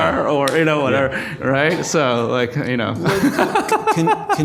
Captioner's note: laughs